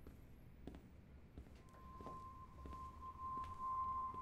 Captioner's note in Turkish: Ayak sesi